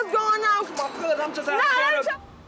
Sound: yelling

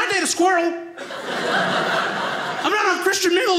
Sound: audience laughing

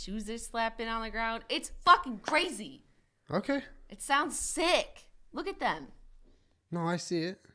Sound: none

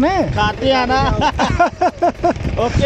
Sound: laughing

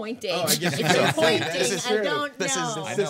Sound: group laughing

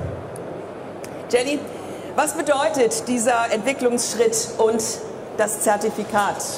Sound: speaking in foreign language

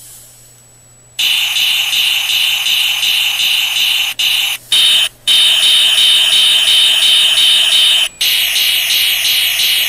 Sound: various sound effects continue for awhile

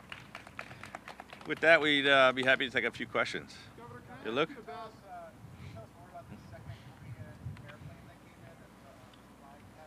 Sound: applause

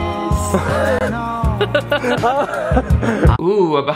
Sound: laughing

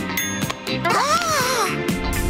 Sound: gasping

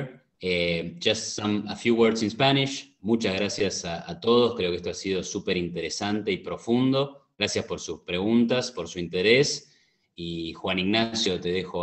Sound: Spanish

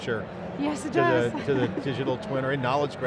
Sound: laughs

